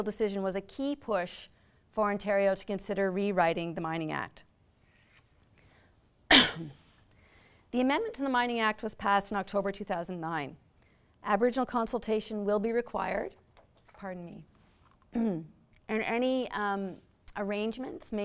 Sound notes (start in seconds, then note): 6.3 coughs; 15.1 clears throat